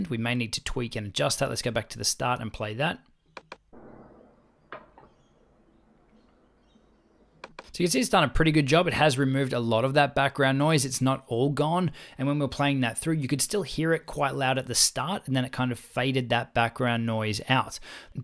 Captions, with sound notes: We may need to tweak and adjust that. Let's go back to the start and play that. (air conditioner humming) So you see it's done a pretty good job. It has removed a lot of that background noise. It's not all gone, and when we're playing that through, you could still hear it quite loud at the start, and then it kind of faded that background noise out.